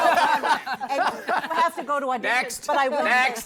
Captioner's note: laughter